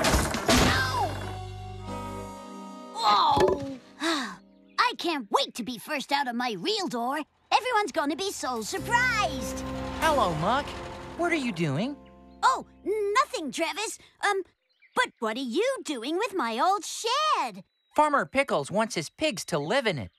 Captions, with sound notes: ( Thud! ) OW! OH. ( Sigh! ) I CAN'T WAIT TO BE FIRST OUT OF MY REAL DOOR. EVERYONE'S GONNA BE SO SURPRISED. HELLO, MUCK. WHAT ARE YOU DOING? OH, NOTHING, TRAVIS. UM, BUT WHAT ARE YOU DOING WITH MY OLD SHED? FARMER PICKLES WANTS HIS PIGS TO LIVE IN IT